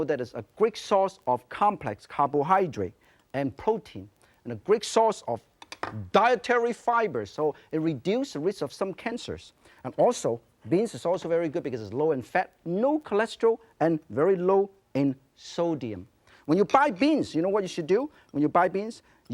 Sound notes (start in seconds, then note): none